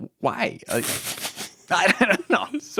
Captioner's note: laughing